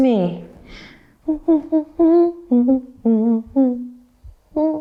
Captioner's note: humming